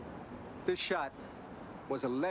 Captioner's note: none